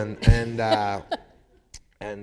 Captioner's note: laughter